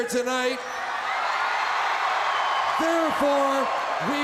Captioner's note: crowd cheering